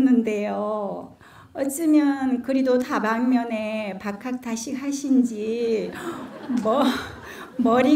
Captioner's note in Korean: 청중 웃음